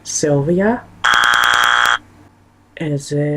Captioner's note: wrong answer sound effect